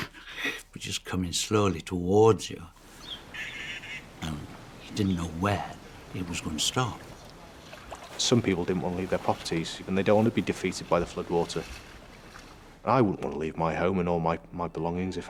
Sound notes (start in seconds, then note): 0.0 chuckles; 2.9 birds chirping